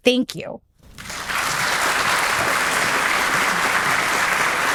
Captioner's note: audience applauding